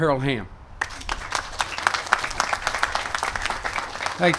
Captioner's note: applause